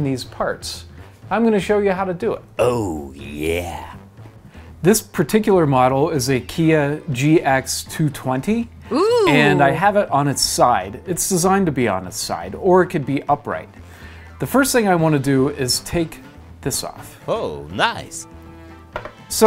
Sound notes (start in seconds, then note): 8.9 female voice ohhhh; 16.6 silly voice ohh nice